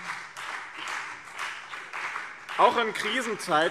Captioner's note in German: Beifall BÜNDNIS 90/DIE GRÜNEN und CDU